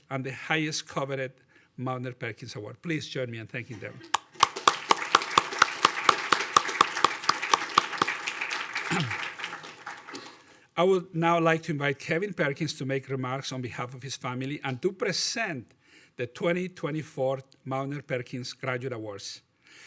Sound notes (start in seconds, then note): 4.1 audience applauding